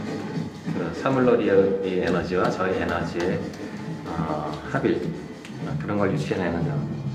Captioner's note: continues speaking in Korean